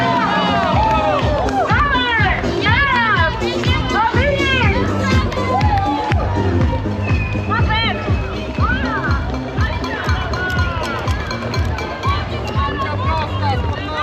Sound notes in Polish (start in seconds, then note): 0.0 Aplauz